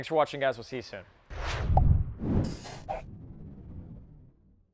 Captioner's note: swooshing